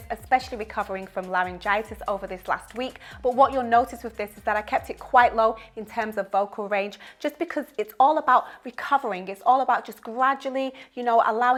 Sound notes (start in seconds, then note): none